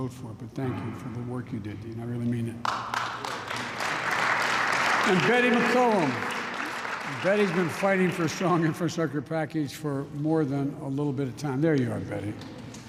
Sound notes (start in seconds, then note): 2.6 applause